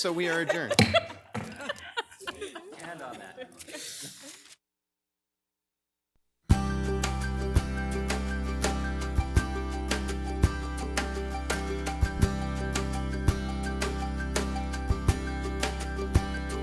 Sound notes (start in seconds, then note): 0.0 group laughs; 0.8 gavel bangs; 3.2 overlapping chattering; 6.7 upbeat music